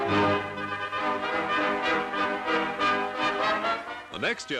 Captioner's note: crowds cheering; triumphant music